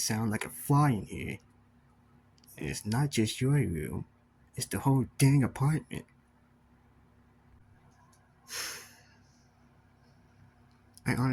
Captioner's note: slightly annoyed sigh